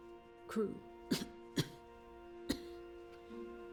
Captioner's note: coughs